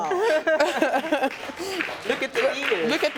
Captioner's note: laughing